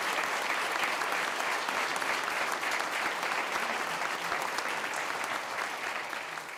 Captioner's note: clapping